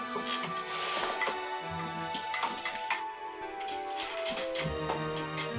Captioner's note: wheelchair creaking